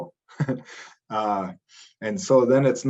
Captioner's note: chuckles